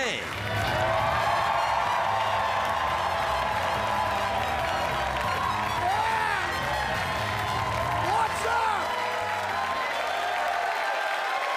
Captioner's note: cheers and applause